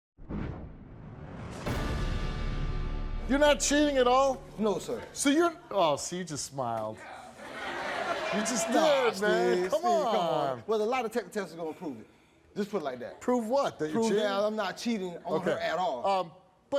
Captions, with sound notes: (suspenseful music) - You not cheating at all? - No sir. - So you, aw see you just smiled. (audience laughs) - You just did man, come on. - Nah Steve, come on. Well the lie detector test is gonna prove it. Just put it like that. - Prove what that you cheating? - Prove that I'm not cheating on her at all.